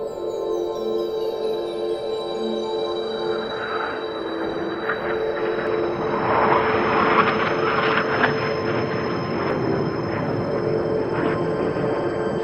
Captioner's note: space Ship Engine Sounds